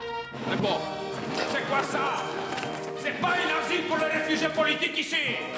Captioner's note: French spoken audio